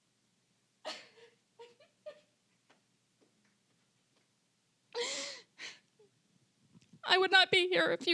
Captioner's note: crying